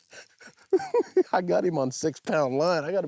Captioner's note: giggling